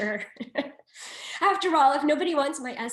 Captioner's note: laughs